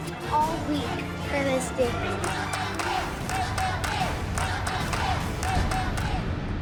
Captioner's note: audience chanting "Let them dance!"